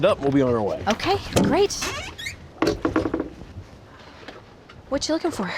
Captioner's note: creaking sound